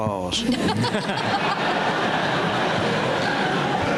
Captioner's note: laughter